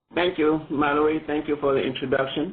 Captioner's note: voiceover